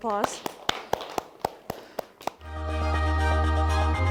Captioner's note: clapping